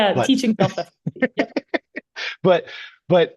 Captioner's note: laughing